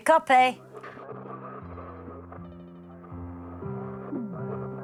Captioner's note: muffled radio static; upbeat music